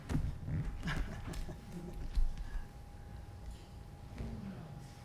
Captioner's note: laughing